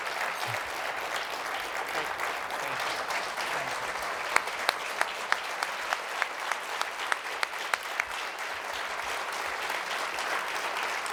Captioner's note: applause